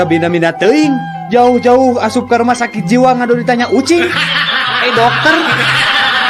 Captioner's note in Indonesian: tertawa